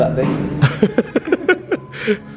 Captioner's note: laughs